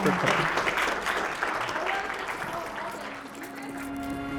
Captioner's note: applause